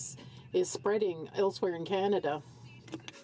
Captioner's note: speaking french